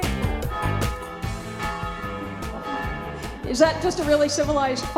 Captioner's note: church bells ring